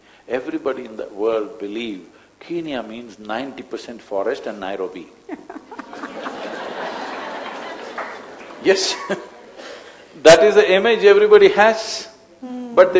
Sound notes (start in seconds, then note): 5.2 laughter; 9.2 laughs